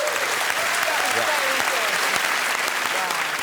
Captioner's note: cheers and applause